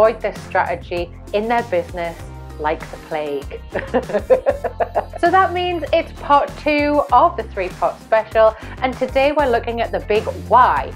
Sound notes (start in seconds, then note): 3.5 laughing